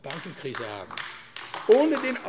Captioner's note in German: Beifall AfD